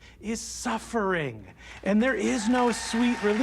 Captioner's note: audience cheering, applauding